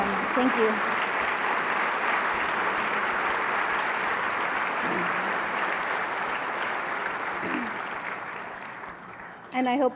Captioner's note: applause